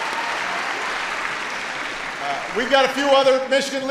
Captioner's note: applause